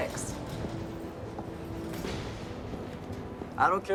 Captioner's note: footstep